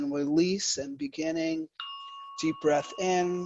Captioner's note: bell rings; breathes